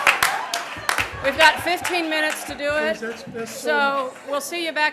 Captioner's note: laughter